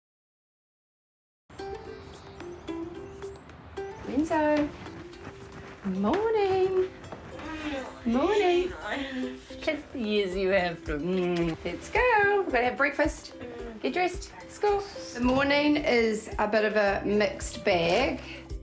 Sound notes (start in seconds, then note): 1.5 soft, bright music; 7.0 grumbles; 11.1 smooches; 13.5 groans